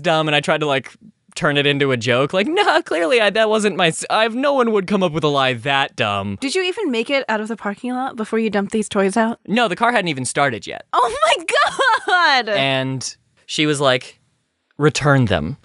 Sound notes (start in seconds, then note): 11.5 trying not to die of laughter